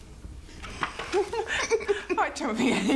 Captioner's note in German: lacht